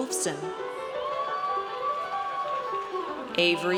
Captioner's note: audience cheers